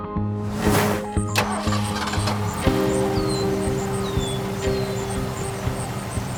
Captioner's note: birds chirping, engine starting